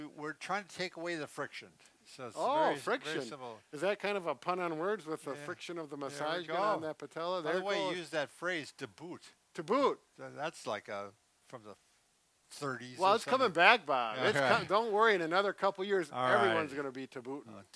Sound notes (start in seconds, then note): 14.2 laughs